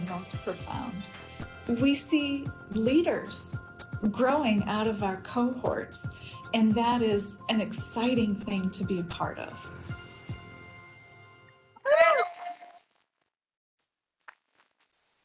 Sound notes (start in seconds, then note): 12.2 cheering